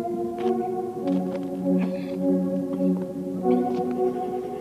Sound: feet crunching pavement

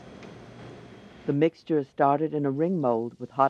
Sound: voiceover

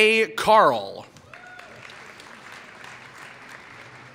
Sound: applause

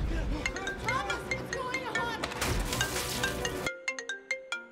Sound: phone rings

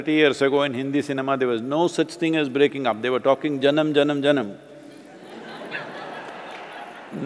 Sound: laughter

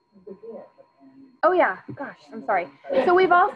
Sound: woman speaking faintly

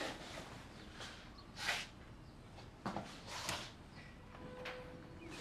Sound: birds chirping

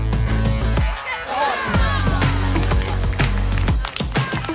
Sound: crowd reactions, applause

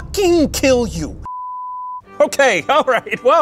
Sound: beep

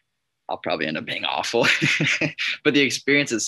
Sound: laughs

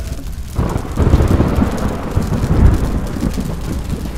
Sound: thunder rumbling

